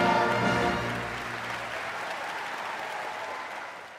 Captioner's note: audience claps